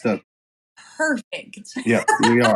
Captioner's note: laugh